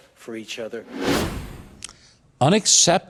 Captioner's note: wind whooshing